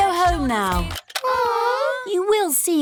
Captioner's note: music stops; all groan